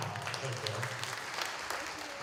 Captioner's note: applause